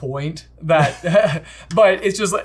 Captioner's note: laughs